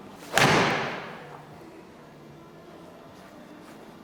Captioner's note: golf club hits ball